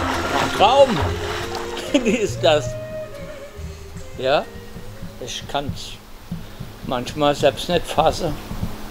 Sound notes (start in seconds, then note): 1.3 laughs